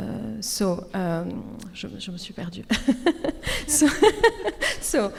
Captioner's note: speaks French